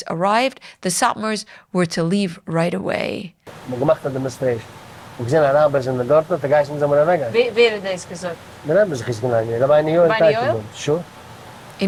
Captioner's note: Yiddish